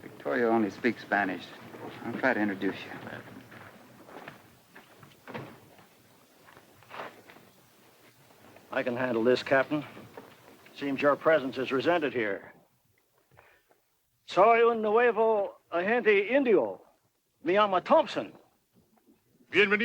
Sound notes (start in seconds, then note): 14.4 speaks Spanish; 19.6 Victorio speaks Spanish